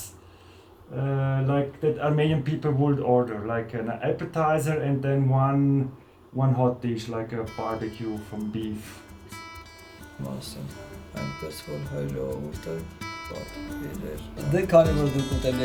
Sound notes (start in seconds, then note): 12.0 reading Armenian